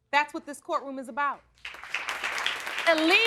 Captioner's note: audience applauding